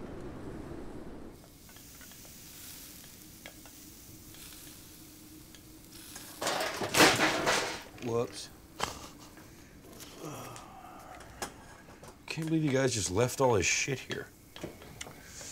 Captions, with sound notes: [crashing] Whoops. Can't believe you guys just left all his shit here.